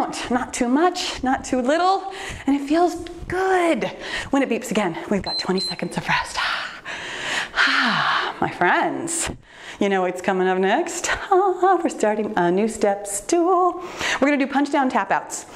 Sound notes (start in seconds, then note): 5.2 timer beeps